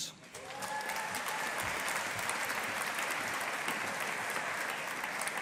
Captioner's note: audience applauding